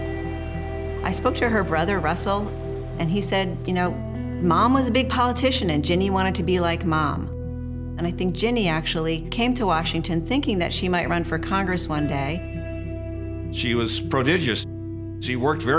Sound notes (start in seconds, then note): none